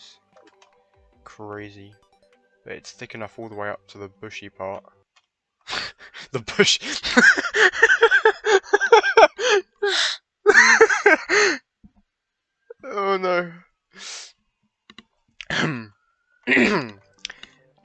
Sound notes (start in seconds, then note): 12.9 clears throat